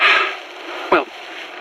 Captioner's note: his footsteps move away, ahead